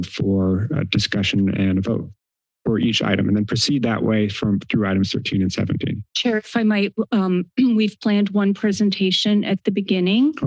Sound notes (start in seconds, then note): 7.1 clears throat